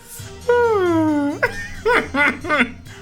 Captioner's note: laughing